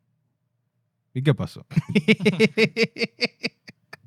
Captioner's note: speaking In Foreign Language; laughs